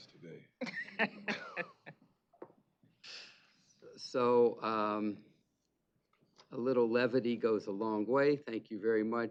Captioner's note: laughs